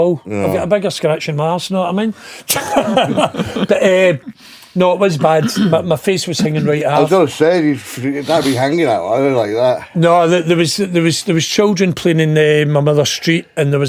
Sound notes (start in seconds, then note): 2.4 laughing